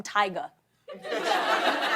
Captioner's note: laughter